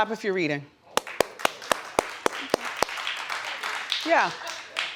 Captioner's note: audience clapping hands